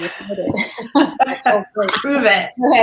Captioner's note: laughter